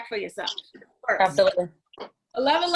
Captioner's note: woman's Voice